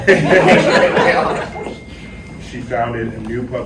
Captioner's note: laughter